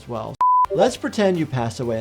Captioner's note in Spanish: pitido de pantalla